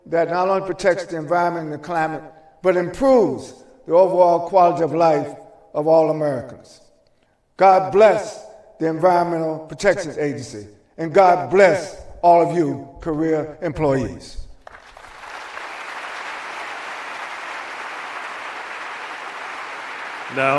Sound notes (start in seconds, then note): 14.6 applause